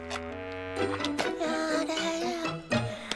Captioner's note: humming